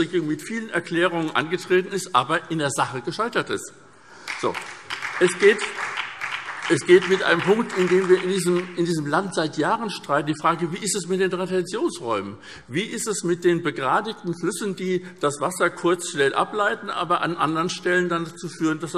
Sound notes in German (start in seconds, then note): 4.2 Beifall SPD